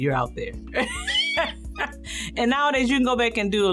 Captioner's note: laughs